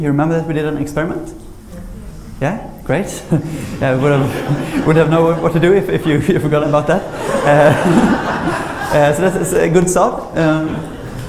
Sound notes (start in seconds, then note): 7.8 laughter